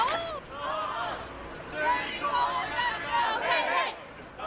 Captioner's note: group chanting